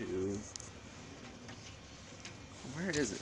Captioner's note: rustling through Cables